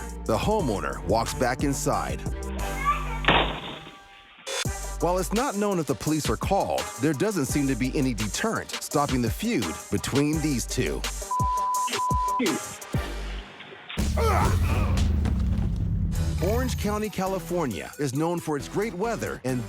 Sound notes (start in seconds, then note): 3.2 door slams